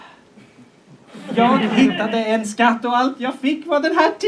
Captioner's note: laughter